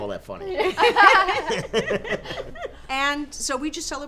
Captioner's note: laughing